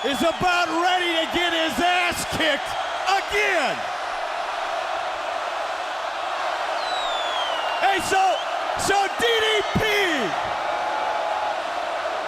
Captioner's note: crowd cheering